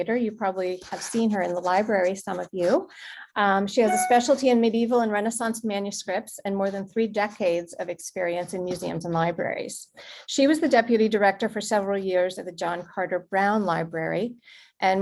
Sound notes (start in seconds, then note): none